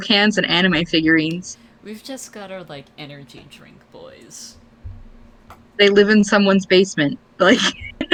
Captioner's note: laughs